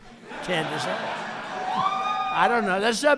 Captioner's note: applause